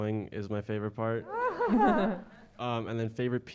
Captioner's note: audience laughing